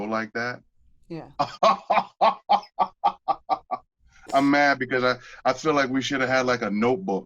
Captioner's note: laughter